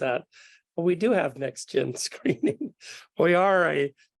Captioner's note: laughs